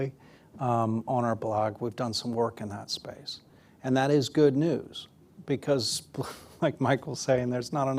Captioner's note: laughs